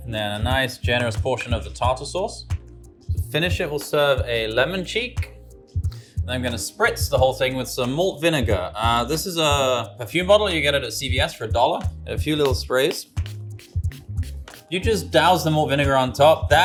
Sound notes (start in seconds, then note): 12.4 bottle sprays; 13.3 gentle music continues